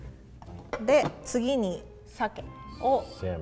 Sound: speaks in foreign language

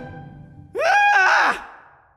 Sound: scream

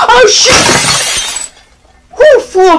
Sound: bang!

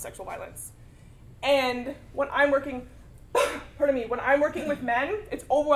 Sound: cough

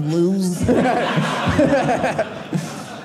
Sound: audience laughing

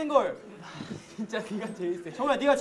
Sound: argh

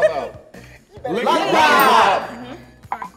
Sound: bell dings

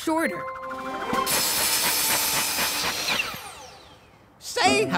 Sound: saw buzzing

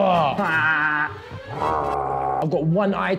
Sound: high-pitched groaning; groaning; deep groaning

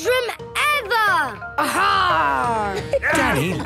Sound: laughter

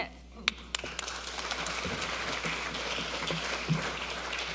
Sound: audience members applaud

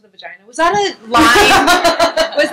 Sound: laughter

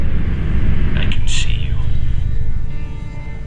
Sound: mysterious voice; mysterious ambient music

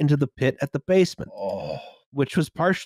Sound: oooooggh

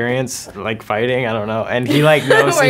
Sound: laughs

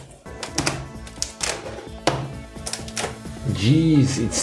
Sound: clattering and thunking

